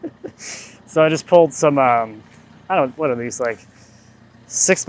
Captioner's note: laughs